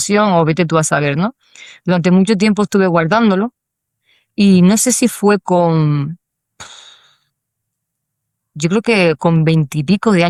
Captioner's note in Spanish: suspiro